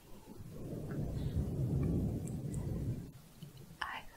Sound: windy sounds

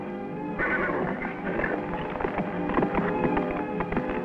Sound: neighs

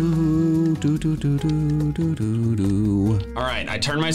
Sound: humming

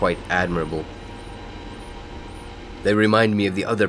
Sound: birds chirping

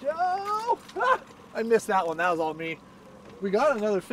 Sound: fish splashing

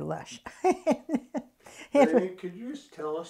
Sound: laughs

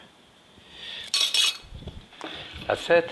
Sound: spoons clatter in glass bowl

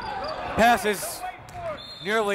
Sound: whistle

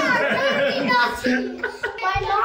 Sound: people laughing

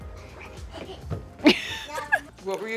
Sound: laughing

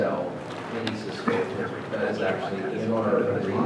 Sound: speaking off microphone

